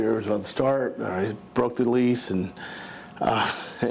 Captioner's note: laughing